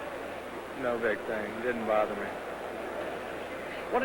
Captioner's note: crow cheering